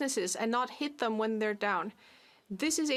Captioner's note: speaking French